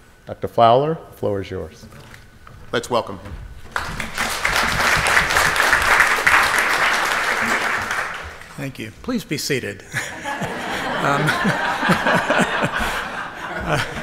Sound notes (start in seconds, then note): 3.6 audience applauds; 9.9 audience laughs